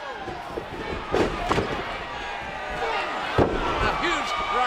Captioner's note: body thudding